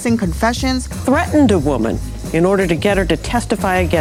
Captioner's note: voiceover